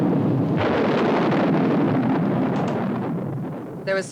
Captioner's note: thunder rumbling